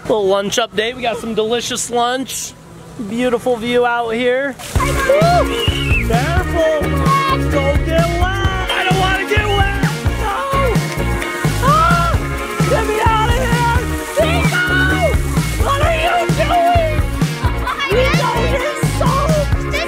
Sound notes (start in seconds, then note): 4.8 shrieks; 4.8 cheerful upbeat music; 9.8 kid shrieking; 13.6 water splattering; 17.2 laughs